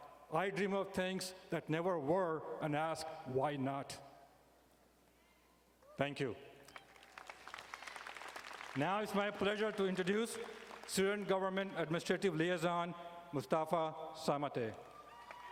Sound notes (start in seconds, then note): 6.7 audience applauding